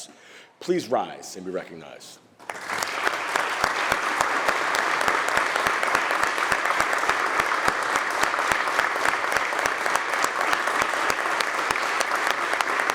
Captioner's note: applause